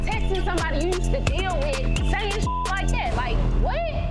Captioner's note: beep